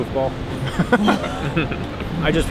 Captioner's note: all laugh